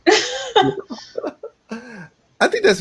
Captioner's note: laughing